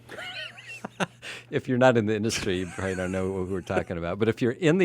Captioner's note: laughs